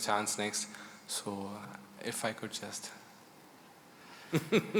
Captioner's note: laughter